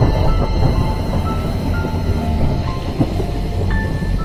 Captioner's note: thunder cracking